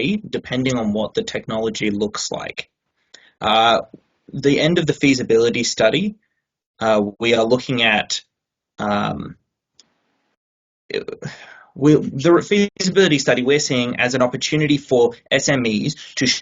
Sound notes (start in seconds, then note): 12.3 audio distorting